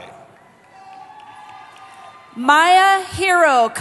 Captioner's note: cheering